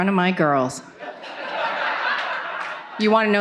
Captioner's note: audience laughing